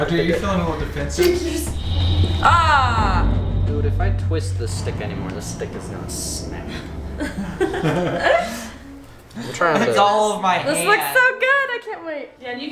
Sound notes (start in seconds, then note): 2.1 dramatic music; 7.1 chuckles